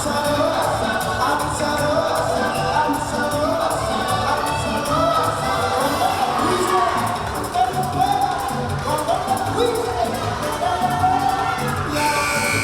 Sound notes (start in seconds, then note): 0.1 festive music; 0.1 singing in foreign language; 5.8 yelling